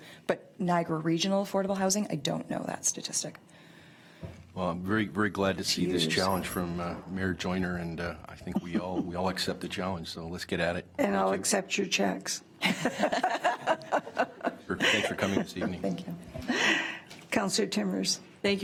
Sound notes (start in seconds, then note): 12.7 laughs